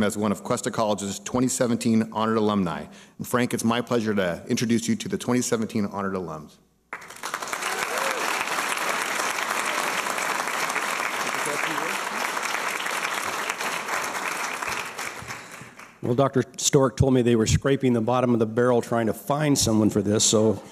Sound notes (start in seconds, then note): 6.9 applause and cheers; 12.8 applause